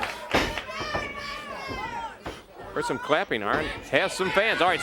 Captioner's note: crowd cheering